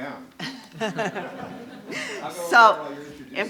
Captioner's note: laughing